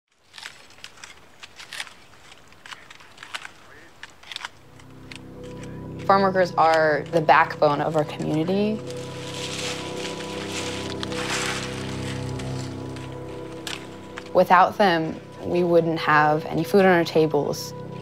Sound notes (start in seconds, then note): 0.5 crackling branches; 5.0 soft background music; 9.7 branches snapping